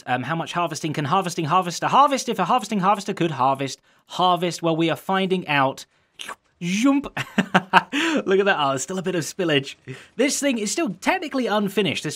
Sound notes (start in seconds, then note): 6.2 slurp; 7.1 chuckles